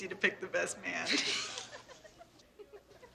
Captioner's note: laughing